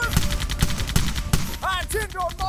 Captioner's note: gunfire